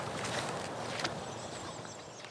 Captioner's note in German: Vogelzwitschern